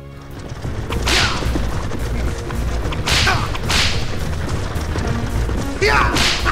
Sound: hooves thundering; whip cracking repeatedly

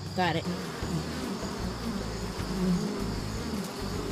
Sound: bees buzzing

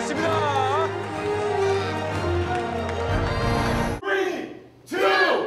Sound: crowd cheering; crowd

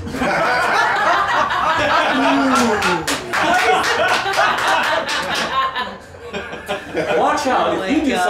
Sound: laughter

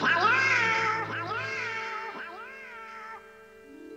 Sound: echoing

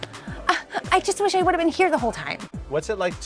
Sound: sighs

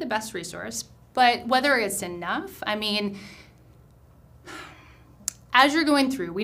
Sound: sighs

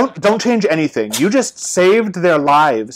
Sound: Fluffy sneezes

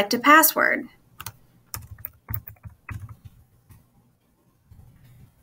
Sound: keyboard chattering

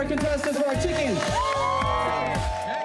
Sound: cheering and applause

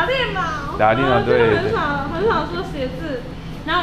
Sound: mandarin

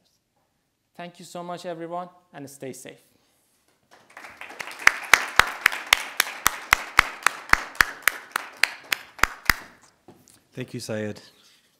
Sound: audience applauding

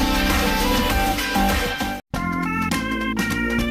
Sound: none

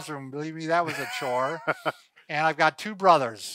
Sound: laughs

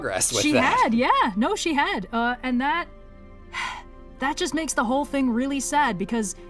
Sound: sigh

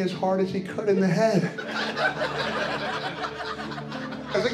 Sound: laughter

